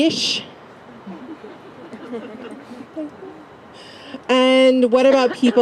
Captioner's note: laugh